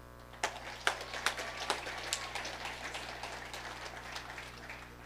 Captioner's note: audience applauding